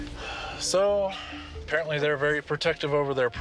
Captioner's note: sighs